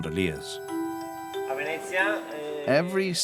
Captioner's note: Italian spoken audio